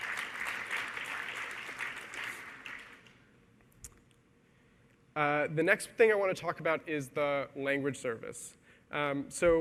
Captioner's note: applause